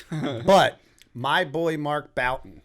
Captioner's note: chuckle